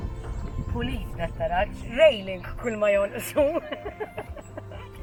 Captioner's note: chuckles